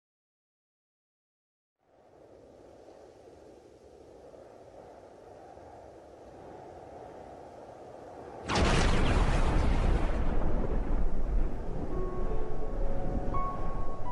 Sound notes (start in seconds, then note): 1.8 wind blowing; 8.4 thunder